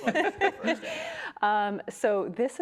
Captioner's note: laughs